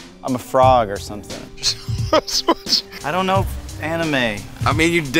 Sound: laugh

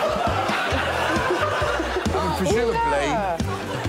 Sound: laughter

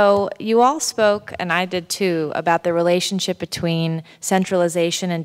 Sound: none

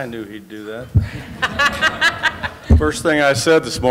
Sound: laughter

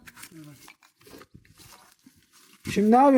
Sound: rustling and clicking noises

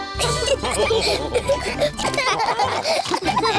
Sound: all laugh

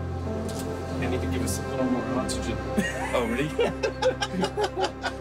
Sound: laughter

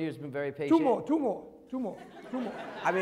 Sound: laughter

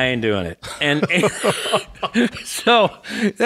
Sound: laughs

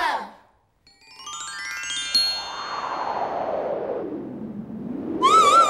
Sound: chimes and wind

